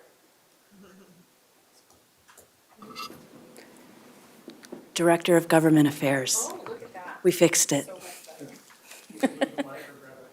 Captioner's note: laughter